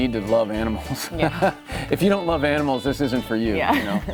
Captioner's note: chuckles